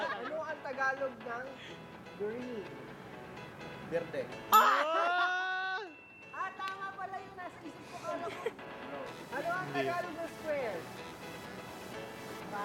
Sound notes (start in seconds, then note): 4.7 screams